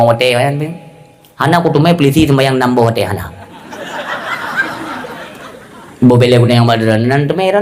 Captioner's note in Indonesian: tertawa